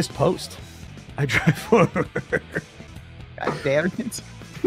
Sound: laughs

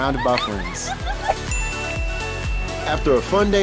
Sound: laughing

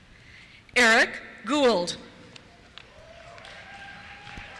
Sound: cheers

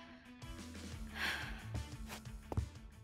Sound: sighs

